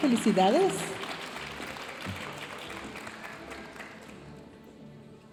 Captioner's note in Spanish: aplausos de la audiencia